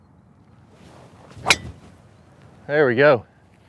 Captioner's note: golf club thwacks